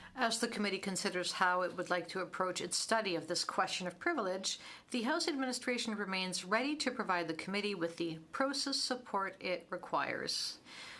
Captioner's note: speaking french